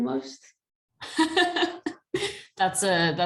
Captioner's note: laughter